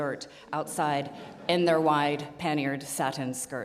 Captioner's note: audience laughing